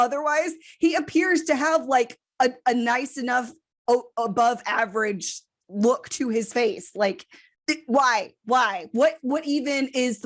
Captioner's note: stammers